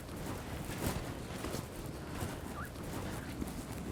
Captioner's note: footsteps